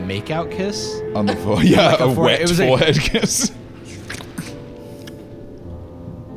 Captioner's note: dramatic smooch